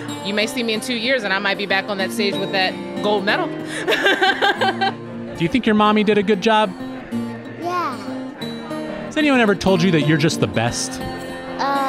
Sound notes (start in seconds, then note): 3.7 laughs